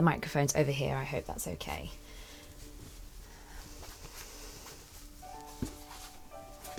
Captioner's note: rustling